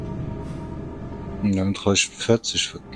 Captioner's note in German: stöhnen